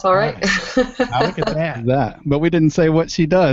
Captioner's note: laughing